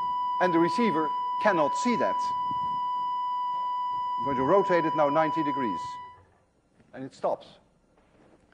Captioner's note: tone stops